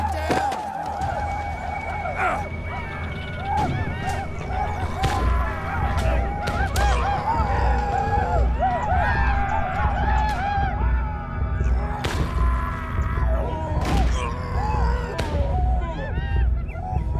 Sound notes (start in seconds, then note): 2.3 man groaning; 8.8 arikara war cries; 8.8 gunshots; 11.8 man groaning